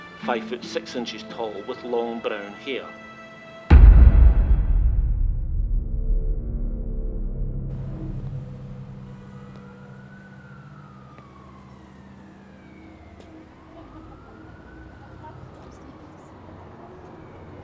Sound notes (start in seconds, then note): 3.7 bassy music; 9.7 police siren blaring; 14.9 tense music